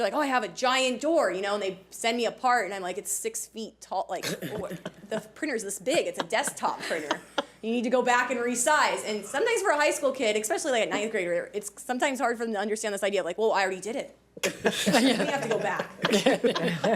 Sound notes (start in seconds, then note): 14.5 audience laughs